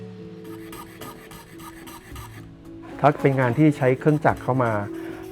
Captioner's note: speaking foreign language